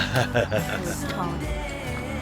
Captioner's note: laughing